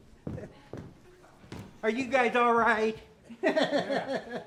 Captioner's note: feet padding; laughs